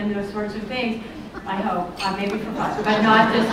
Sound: laughter

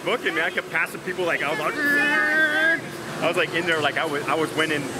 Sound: makes sound of engine

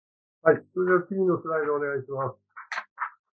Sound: speaking japanese

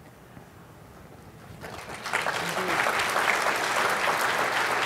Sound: applause

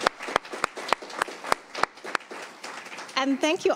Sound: applause

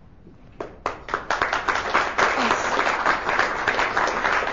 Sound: audience claps

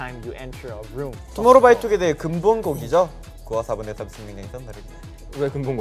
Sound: speaking in Korean

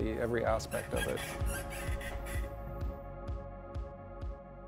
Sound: squeaking

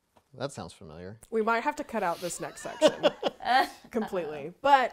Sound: laughs

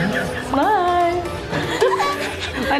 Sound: laughs

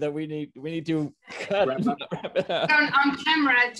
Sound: laughs

